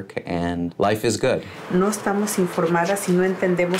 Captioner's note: Spanish